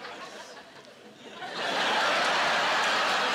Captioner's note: laughing